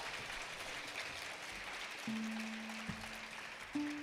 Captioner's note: attendees clapping